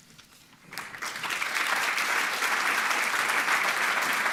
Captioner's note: audience applauding